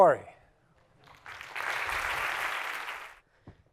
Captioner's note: applause